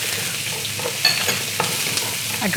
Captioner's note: sizzling